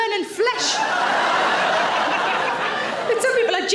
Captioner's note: audience laughs